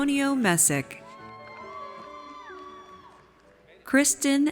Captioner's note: audience cheers